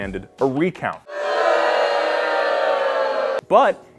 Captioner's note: booing noises